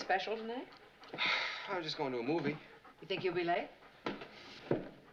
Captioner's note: sighs